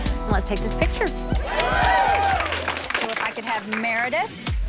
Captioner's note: cheering